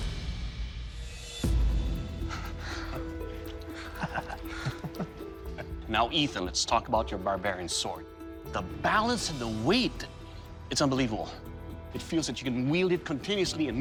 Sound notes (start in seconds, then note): 3.5 chuckles